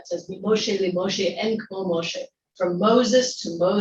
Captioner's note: speaking in Hebrew